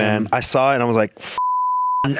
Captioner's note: beep